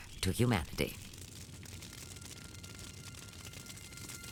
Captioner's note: flames crackling